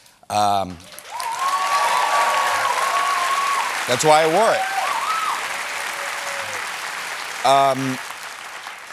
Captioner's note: cheers and applause